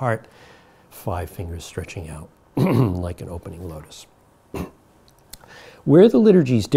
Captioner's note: clears throat